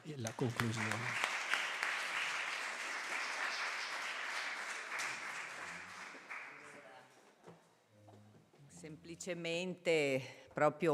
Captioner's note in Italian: Applauso